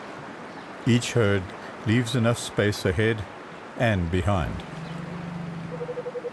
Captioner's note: animals calling